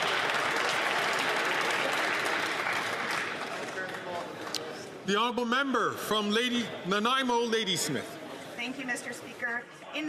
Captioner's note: some Applause